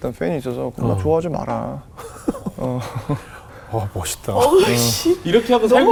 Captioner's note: laughing